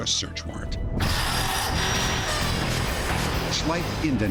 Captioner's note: sawing